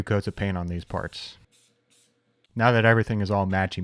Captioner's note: paint can spraying